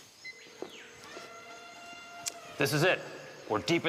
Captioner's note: birds chirping; elephant trumpeting